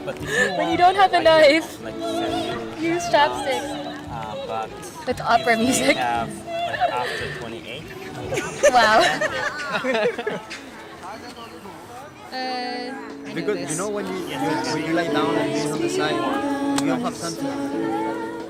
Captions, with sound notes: When you don't have a knife, you use chopsticks with opera music Wow (laughter) You won, congratulations